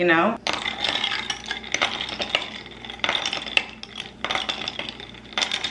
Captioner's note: ice clanking against glass